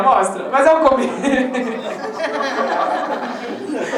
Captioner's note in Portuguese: Risadas